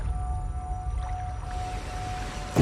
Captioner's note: water gurgling